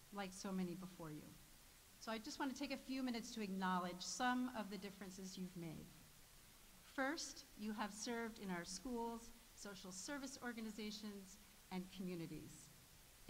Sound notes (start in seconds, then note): none